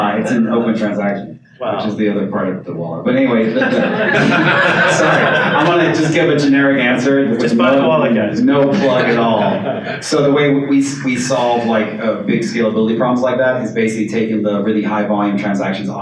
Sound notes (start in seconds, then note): 3.5 audience laughs